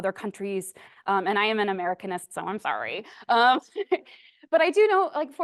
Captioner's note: laughs